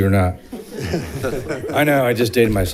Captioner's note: audience laughs